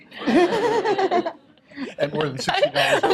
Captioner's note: laughter